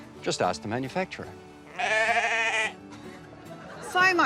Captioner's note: bleating